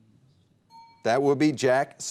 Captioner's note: bell ding